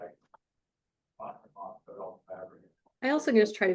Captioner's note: indistinct conversation